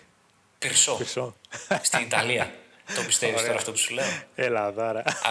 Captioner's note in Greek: γέλια